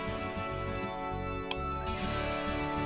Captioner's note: Switch clicks